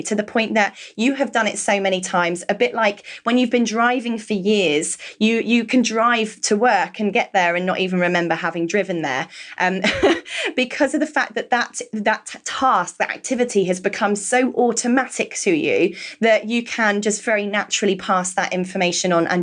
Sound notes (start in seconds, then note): 9.8 laughs